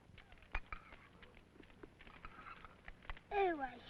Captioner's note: fire crackling